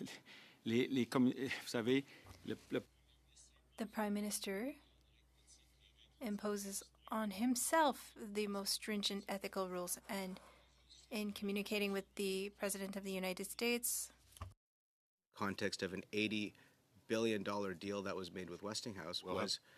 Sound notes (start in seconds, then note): 5.6 speaking French